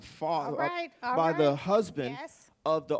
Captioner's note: bell